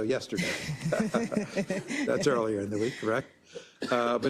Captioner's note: laugh